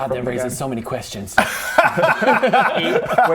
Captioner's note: don't-poke-the-plot-holes laughter